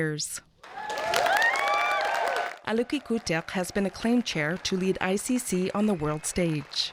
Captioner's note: applause